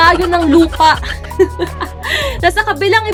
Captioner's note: laughing